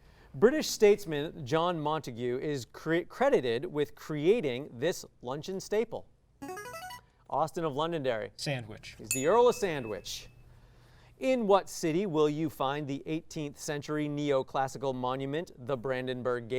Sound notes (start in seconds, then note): 6.4 signaling device tone; 9.1 ding